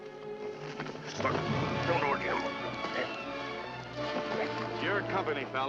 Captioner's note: struggling